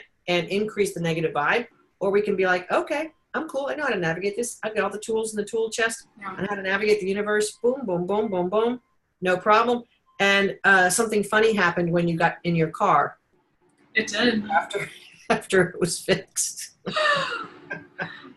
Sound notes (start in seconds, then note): 16.8 laughing